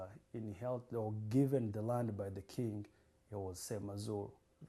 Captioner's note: non-english